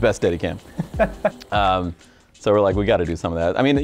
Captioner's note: laughs